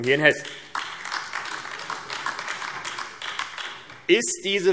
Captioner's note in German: Beifall AfD